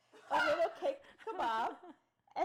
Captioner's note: laughing